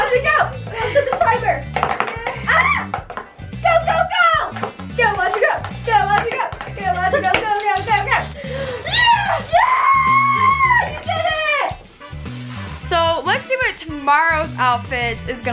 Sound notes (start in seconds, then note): 2.2 yelps